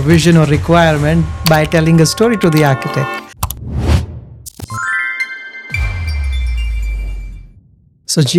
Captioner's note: logo Whooshing